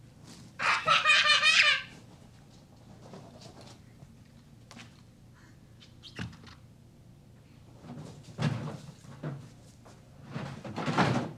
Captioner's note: laughter